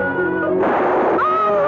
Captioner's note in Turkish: Tüfek sesi